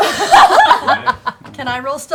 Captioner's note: laughter